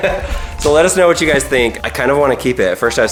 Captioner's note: laughs